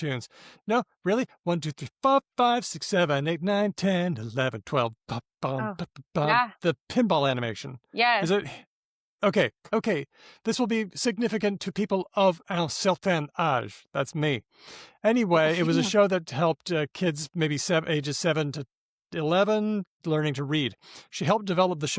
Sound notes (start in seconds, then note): 1.6 in a singsong voice; 5.7 scats